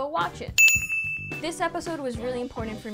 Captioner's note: bell dings